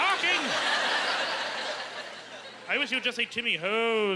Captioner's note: laughing